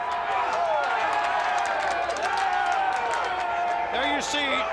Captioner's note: crowd cheering